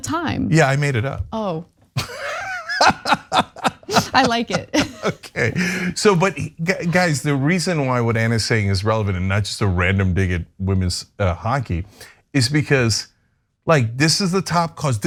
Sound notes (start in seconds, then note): 2.0 laugh